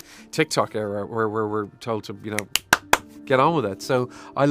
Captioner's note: clapping